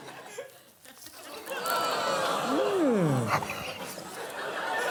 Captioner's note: audience groaning